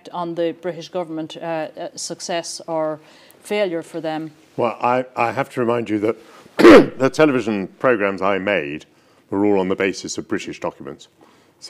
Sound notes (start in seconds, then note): 6.6 clears throat